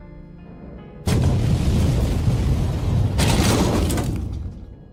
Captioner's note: boom